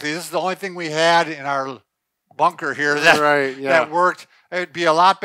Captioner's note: laughs